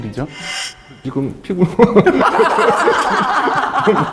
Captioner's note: laughing hard